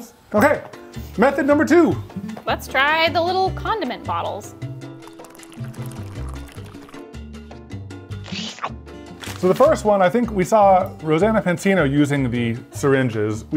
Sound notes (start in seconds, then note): 4.9 liquid splashing; 8.2 slurping